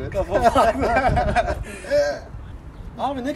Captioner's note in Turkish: gülüşürler